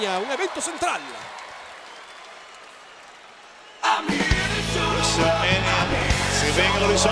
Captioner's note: applause